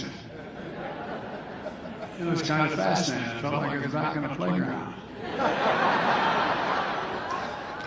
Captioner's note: applause